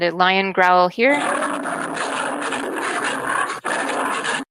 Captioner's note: lion growl